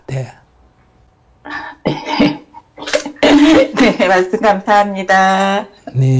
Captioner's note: questioner Laughter